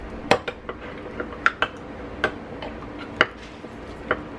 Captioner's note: stirring